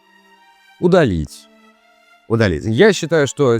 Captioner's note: pause; pause